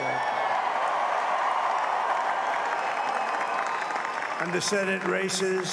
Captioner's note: applause